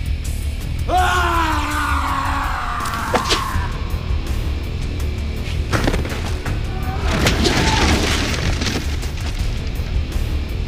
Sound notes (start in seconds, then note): 0.8 Gundra screams; 6.8 clattering; 7.2 air whipping